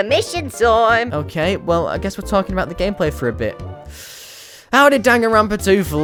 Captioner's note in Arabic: تنفس